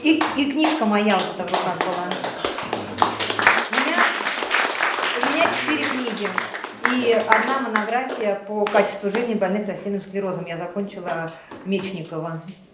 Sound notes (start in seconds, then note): 0.1 applause